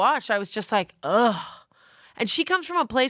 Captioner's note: groans